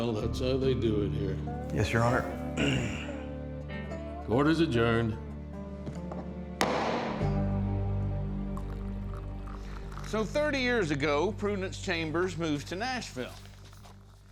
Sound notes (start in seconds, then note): 6.6 gavel bangs; 8.4 liquid pouring